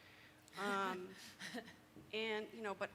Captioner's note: host laughs